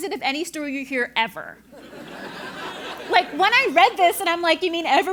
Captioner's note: laugh